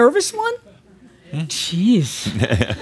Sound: Adamus chuckles

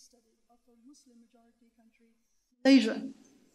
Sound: speaks off microphone

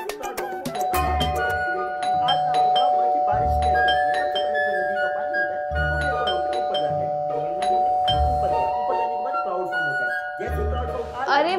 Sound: door Bell Ringing

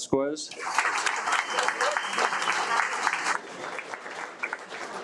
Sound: audience applauds

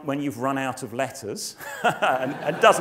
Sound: laugh

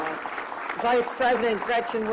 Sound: applause

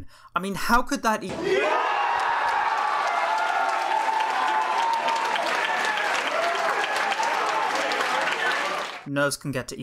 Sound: cheering, clapping

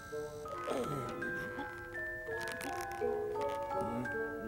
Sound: groaning

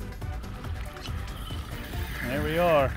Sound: reel spinning; reel clicking

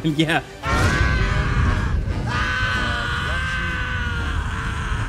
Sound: Joker screaming

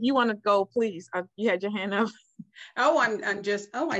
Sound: chuckles

